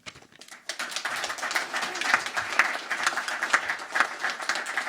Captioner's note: crowd applauding